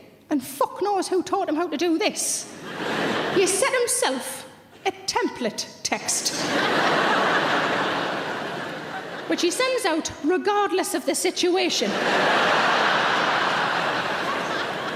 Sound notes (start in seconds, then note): 2.6 audience laughs; 6.3 audience laughs; 11.8 audience laughs